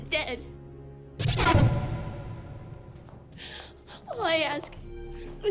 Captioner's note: rapid startling swooshes